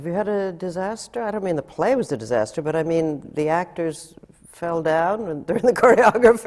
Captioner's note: laughs